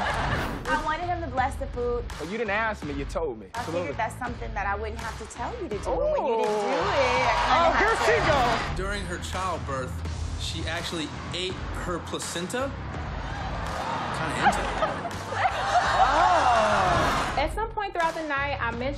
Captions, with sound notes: I wanted him to bless the food-- But you didn't ask, me you told me. I figured that's something that I wouldn't have to tell you to do. - Ooh. [audience laughing] When you didn't do it, I kinda had to-- Oh, here she go. During her childbirth, she actually ate her placenta. [audience gasping] I'm kinda into it. [audience laughing] Oh. At some point throughout the night I mentioned God,